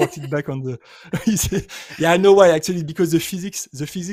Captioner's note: chuckling